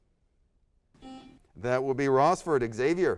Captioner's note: buzzer sounds